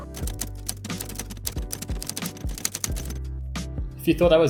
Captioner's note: keys clacking